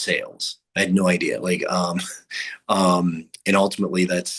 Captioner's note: chuckles